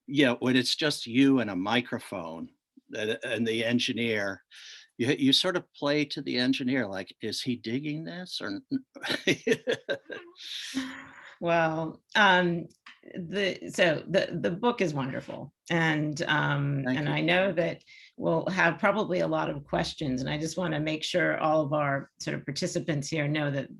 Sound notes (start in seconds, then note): 8.9 laughs